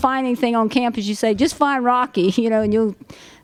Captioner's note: none